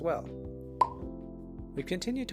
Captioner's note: pop